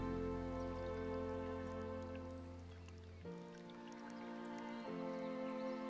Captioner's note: gentle music; wine sloshing